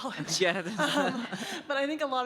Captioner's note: laughing